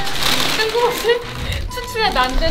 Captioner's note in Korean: 웃음